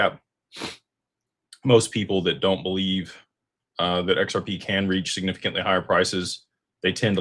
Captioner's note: snorts